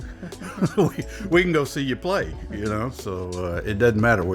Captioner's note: laughs